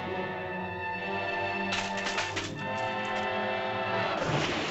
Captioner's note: suspenseful music; tree crackles; water splashes